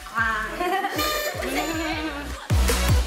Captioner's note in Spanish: Haciendo sonar silbatos cumpleaños; risa; música optimista